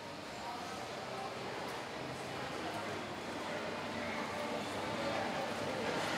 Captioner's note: sound of a busy shopping mall